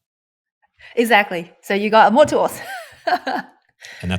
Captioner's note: laughs